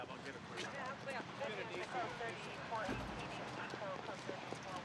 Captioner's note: radio chatter